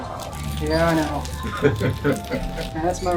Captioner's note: laughing